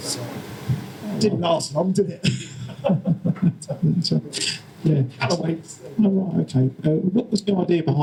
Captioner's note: laughter